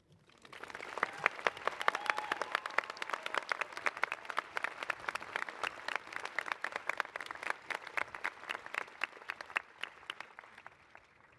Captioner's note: applause